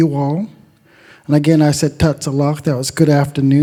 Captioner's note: speaks Indigenous language